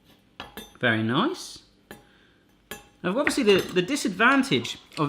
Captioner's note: none